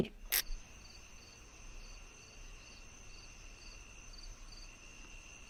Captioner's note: crickets chirping